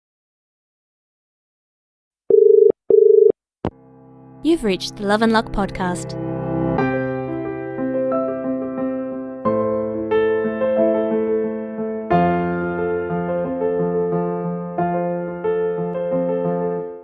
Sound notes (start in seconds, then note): 2.3 dial Tone